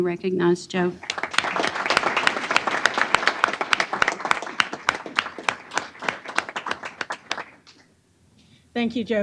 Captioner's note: applause